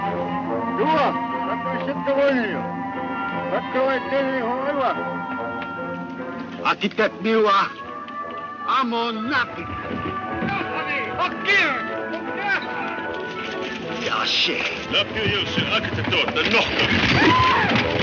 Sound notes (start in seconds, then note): 2.0 speaks in foreign language